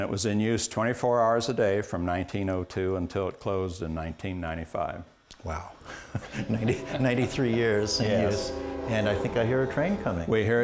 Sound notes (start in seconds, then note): 8.2 ^train whistle^